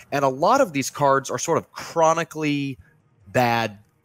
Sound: none

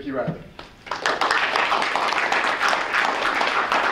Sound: applause

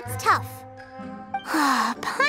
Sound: sigh

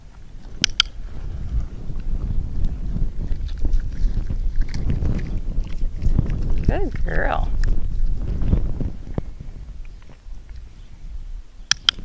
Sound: clicking with very brief intervals in between

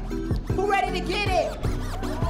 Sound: cheering

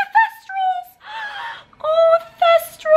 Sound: gasps

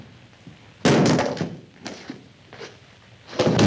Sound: loud thud

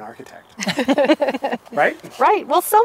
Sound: laughing

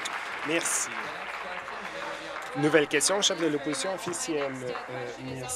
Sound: applause

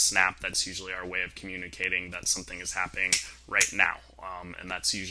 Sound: snaps

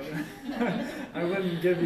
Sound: laughter

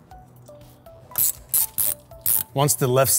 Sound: tool clicking

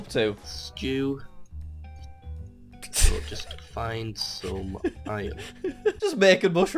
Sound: laughs

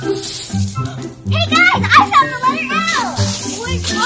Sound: gasps

